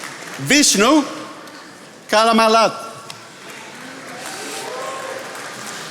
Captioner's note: attendees applauding; attendees applauding